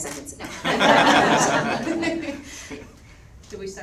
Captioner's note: all laugh